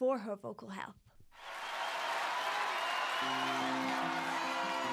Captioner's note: audience cheering and clapping